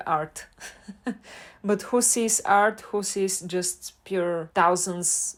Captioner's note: haha